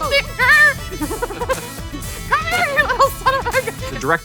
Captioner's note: laughs